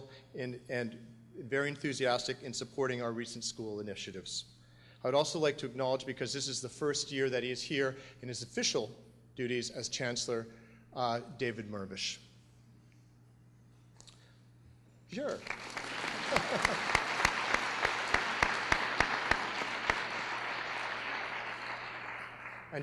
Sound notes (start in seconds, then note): 16.6 applause